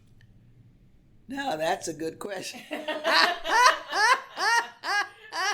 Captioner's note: laughs